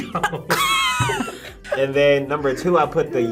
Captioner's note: both laugh